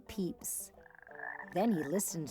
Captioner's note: frog croaking